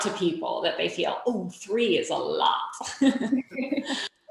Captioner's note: laughing